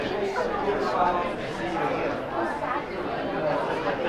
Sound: group chattering

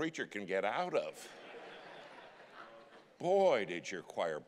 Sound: congregation laughing

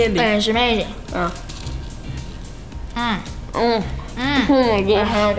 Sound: grunts of delight

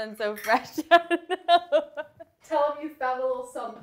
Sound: laughing

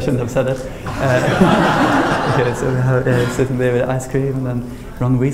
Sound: AUDIENCE: Laughter

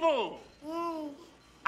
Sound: Pubert giggles

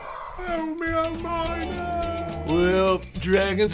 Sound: mumbling

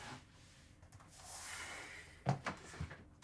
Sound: sighs

